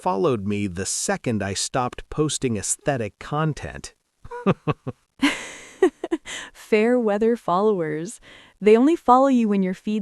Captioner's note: laughs